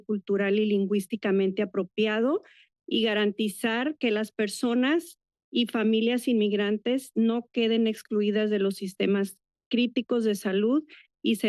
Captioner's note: foreign language